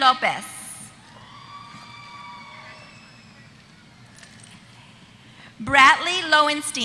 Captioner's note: applause